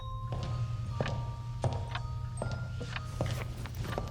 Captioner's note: gentle music; footsteps thudding